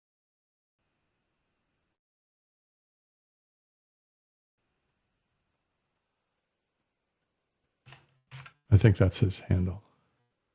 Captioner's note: mouse clicking